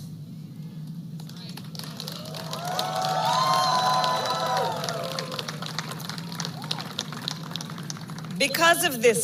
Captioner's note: applause